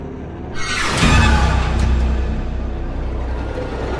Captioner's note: quick scary bang; intense scary music